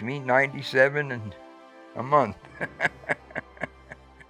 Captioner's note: chuckles